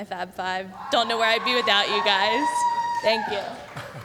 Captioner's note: background Cheering